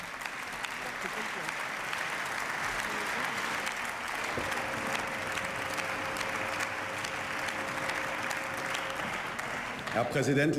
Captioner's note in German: Beifall